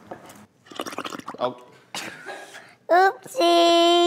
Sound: bubbles

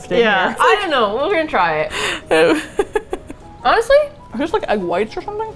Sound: laughs

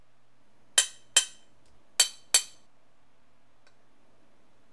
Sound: glass tapping

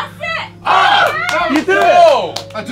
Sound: JJ screaming; group applauding

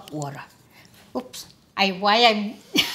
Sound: laughs

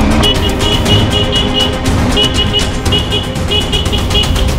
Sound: continuous Horn

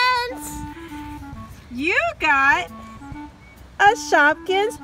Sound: voiceover

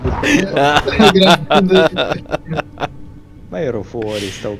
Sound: laugh turns evil

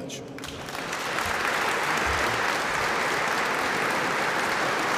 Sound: applause

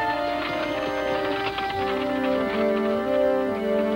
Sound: wagon rattling

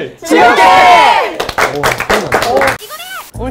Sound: applause

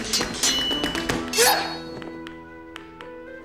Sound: grunts

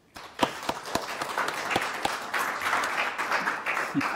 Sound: crowd applause

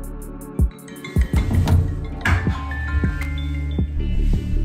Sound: Forest app chimes

